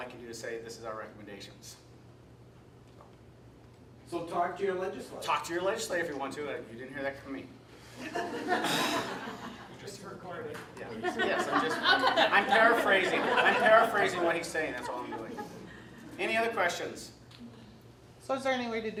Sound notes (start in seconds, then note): 8.6 sighs, and there's laughter throughout the room; 14.6 laughter continues